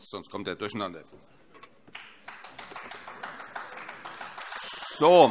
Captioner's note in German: Beifall AfD